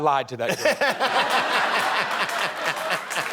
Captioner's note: laughing